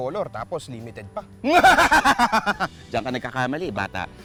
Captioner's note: laughs menacingly